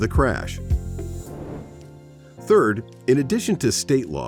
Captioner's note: air whooshes